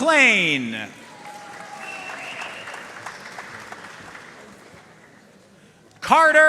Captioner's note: audience cheering and applauding